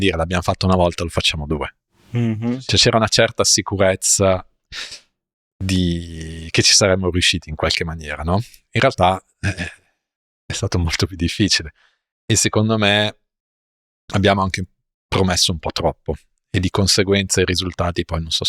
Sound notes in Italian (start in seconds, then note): 5.7 sbuffare; 9.4 schiarire la voce